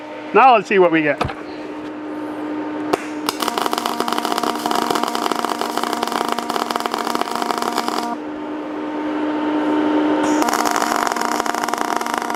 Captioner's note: welding